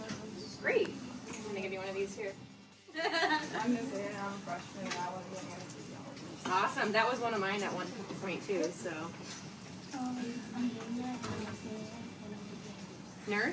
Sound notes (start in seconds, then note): 2.9 student laughing